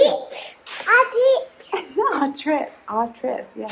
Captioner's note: babbling